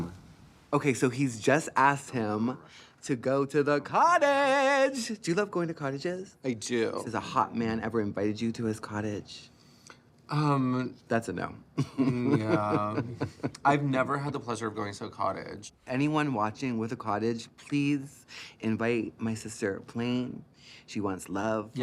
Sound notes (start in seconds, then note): 11.8 chuckles